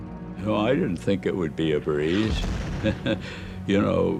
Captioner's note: chuckles